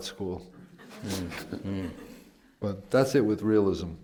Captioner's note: laughter